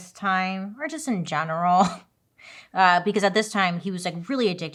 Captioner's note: laughs